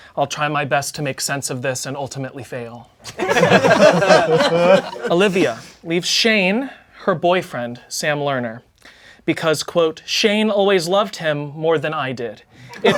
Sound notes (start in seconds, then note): 3.0 crowd laughing